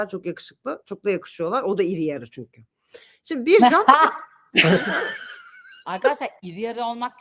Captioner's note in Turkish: kahkaha